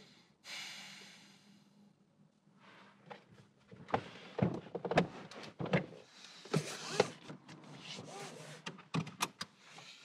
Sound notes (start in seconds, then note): 0.0 deep inhale; 0.4 exhales; 3.7 seat adjusting; 6.6 seat belt fastens; 8.9 click